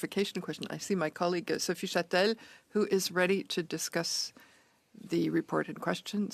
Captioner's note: speaking French